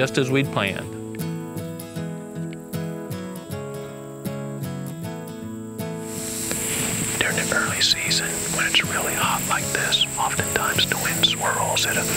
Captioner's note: whispering